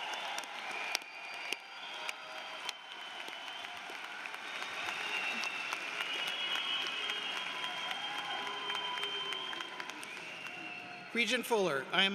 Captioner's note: cheers and applause